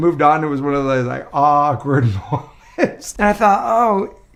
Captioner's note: chuckles